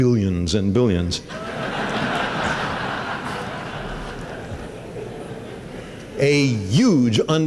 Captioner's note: laughter